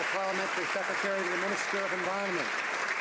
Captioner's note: some Applause